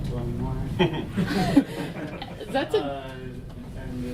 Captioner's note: audience laughing